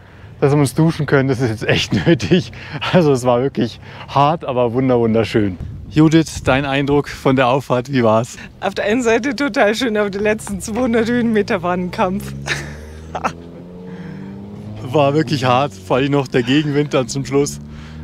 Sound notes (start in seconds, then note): 12.2 laughs